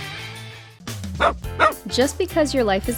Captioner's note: dog barks